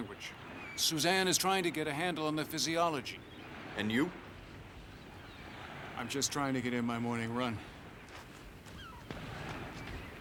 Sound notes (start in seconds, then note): none